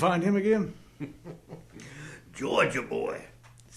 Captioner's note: laughs